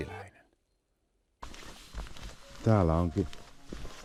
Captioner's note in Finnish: askelten ääniä